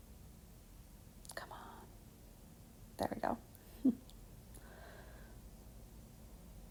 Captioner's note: chuckles